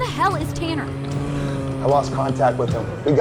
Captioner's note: moans